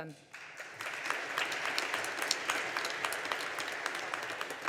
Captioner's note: audience applauding